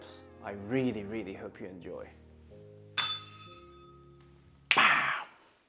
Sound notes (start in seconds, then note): 3.0 bell rings